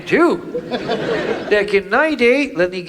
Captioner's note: audience laughs